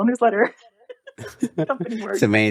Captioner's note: laughter